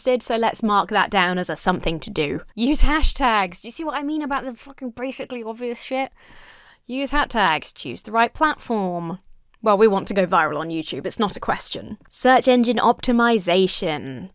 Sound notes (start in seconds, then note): none